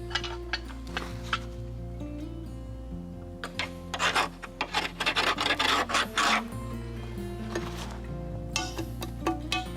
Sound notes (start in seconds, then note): 4.3 snow crunching